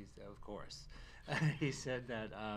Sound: laughs

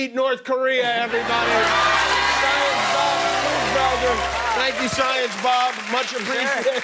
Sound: cheers and applause

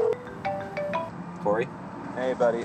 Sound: phone rings

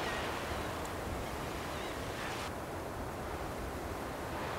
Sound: sea birds; sea birds; wind

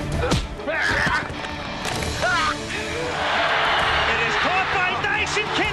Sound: punching and groaning

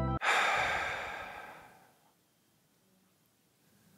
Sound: upbeat music plays; sighs

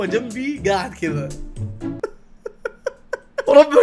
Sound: laughs

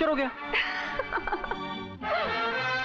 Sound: laughs

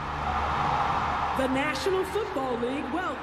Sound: cheers and applause

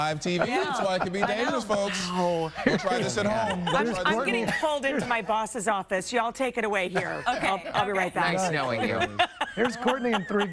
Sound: laughter

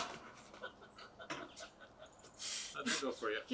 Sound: chuckling

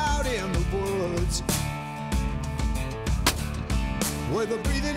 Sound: gunshot

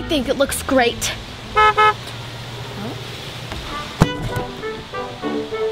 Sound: car honks; lively music

